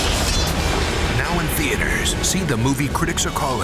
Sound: voiceover

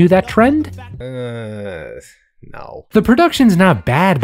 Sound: groans hesitantly

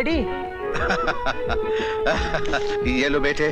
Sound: laughs

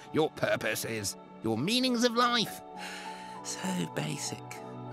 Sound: sighs

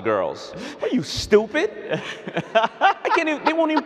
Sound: laughing

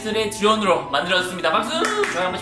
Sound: claps

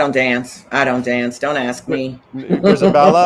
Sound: chuckles

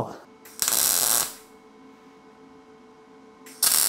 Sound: tool crackles

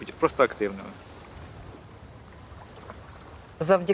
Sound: ocean waves

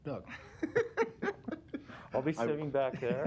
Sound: laughter

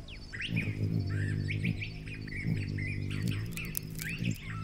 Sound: buzz of hummingbird wings

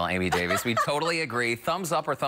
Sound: laughter

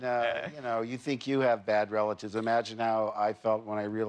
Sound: laughter

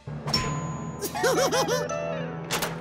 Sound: giggling

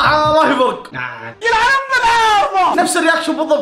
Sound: tsks

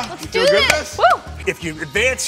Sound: whooping and clapping

